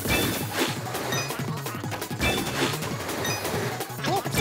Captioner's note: air cannons